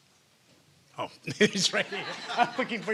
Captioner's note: laughter; laughing